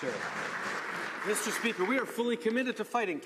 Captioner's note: some Applause